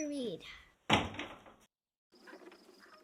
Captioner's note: door slamming shut